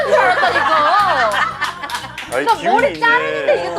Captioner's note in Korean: 웃음